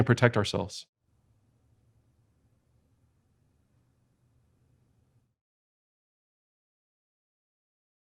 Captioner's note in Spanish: Silencio